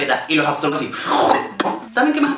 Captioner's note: loud slurp